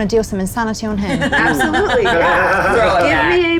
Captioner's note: group laughs